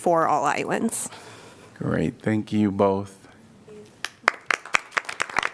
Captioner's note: applause